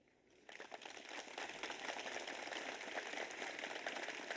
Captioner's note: audience applauds